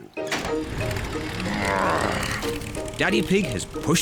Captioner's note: engine starts